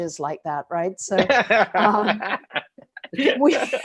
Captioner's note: chuckles